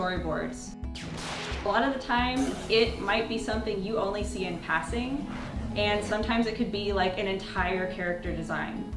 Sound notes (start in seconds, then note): 0.9 blaster fire